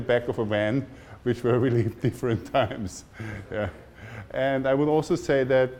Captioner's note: laughing